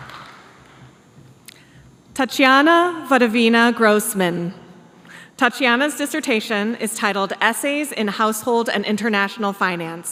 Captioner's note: applause